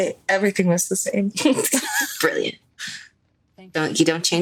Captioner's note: laughs